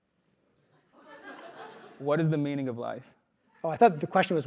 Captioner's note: laugh